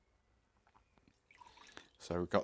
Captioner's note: liquid hitting glass